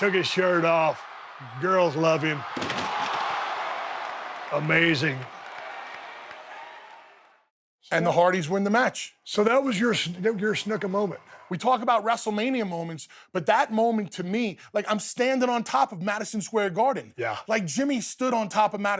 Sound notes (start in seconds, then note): 3.3 crowd exclaims